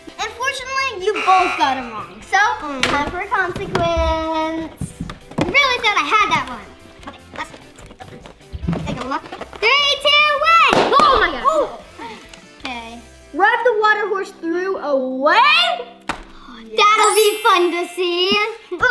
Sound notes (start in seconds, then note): 10.6 balloons popping